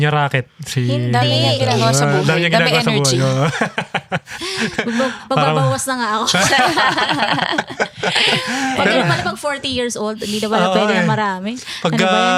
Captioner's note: speaking in foreign language